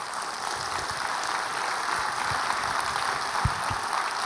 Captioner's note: audience clapping